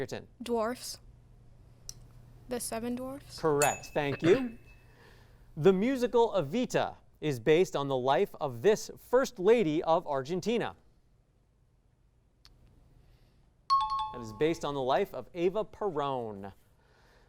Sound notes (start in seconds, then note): 3.6 ding; 13.7 high-pitched tones